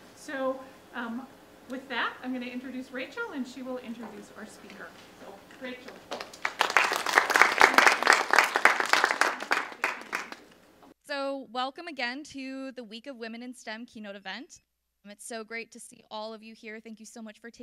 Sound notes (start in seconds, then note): 5.8 applause